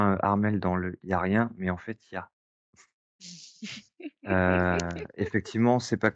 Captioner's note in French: rires